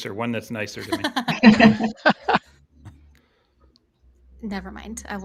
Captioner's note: all laughing